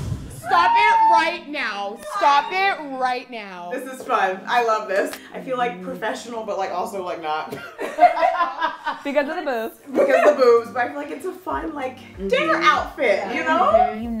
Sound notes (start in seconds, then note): 7.5 laughter